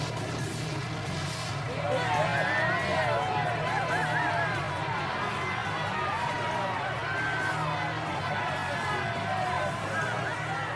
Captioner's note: cheering